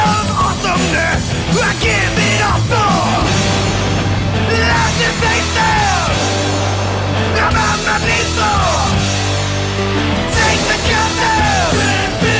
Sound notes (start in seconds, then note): 3.0 boom!